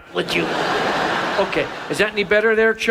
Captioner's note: audience laughs